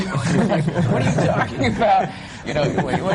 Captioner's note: laughter